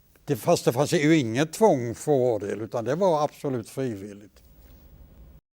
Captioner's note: Swedish